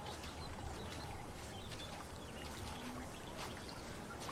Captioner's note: nature sounds